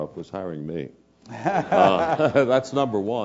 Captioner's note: laugh